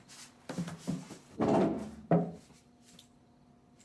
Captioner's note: chair scrapes